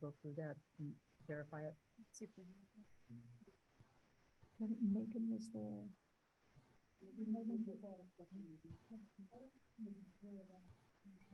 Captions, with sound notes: and have a chance to go through that and verify it? (people chattering)